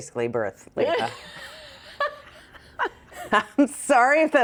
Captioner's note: both laughing